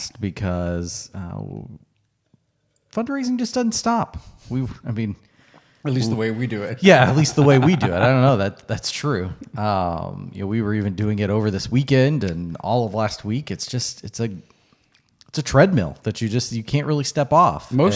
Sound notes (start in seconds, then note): 5.8 gulps; 5.9 laughs